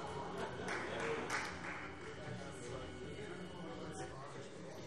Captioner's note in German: Vereinzelter Beifall Freie Demokraten